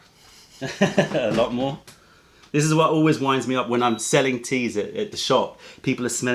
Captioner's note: laughter